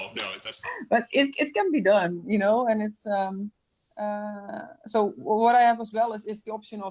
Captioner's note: laughs